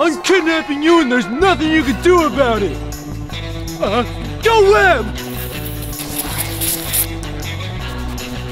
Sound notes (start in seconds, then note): 5.2 Silly String sprays